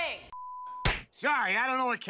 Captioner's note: smack